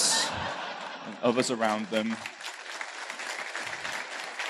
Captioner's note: laughter; applause